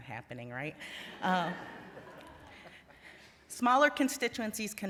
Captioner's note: laughter